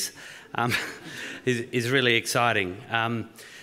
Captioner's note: chuckles